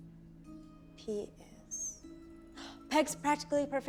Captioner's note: gasps